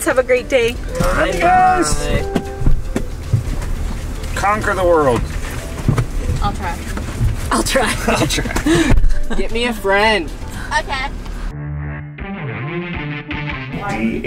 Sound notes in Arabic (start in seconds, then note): 9.3 يضحك; 12.1 موسيقى مكثفة